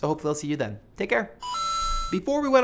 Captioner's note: arcade sound